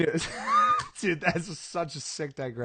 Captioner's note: laughing